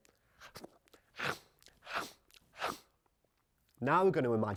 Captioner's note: chomping sounds